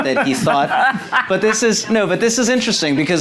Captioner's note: laughing